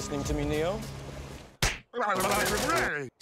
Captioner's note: smack